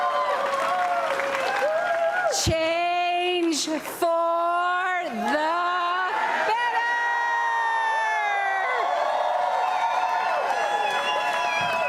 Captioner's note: applause and cheering